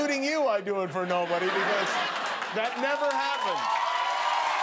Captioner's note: laughter